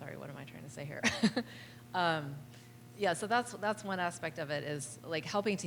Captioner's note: laughter